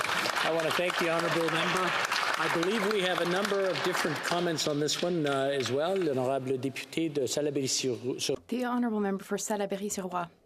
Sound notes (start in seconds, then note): 3.7 applause